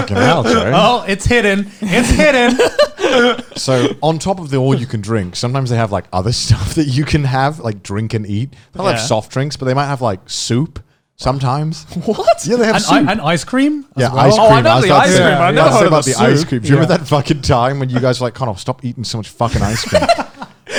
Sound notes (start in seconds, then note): 1.8 laughing